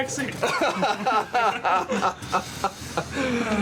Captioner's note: all laughing